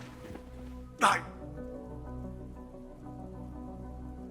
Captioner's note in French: le moine grogne